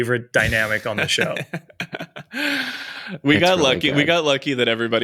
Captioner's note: chuckles